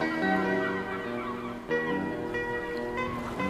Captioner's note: waves crashing